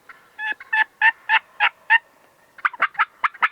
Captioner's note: turkey call